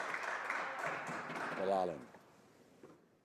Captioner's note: speaking Alternate Language